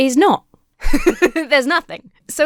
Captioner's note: laughs